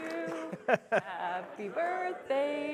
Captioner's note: laughter